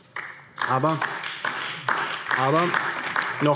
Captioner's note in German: Beifall DIE LINKE und vereinzelt BÜNDNIS 90/DIE GRÜNEN